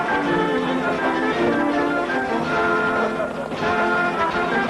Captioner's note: laughing